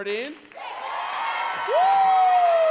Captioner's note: audience cheering and clapping